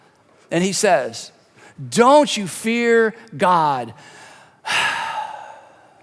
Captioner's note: exhales